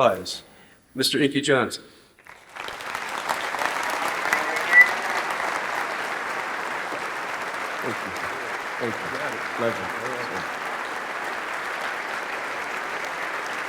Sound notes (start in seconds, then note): 2.2 applause